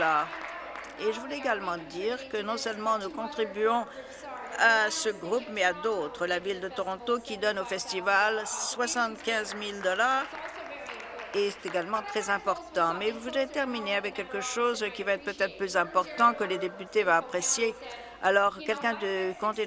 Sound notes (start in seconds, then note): 0.0 applause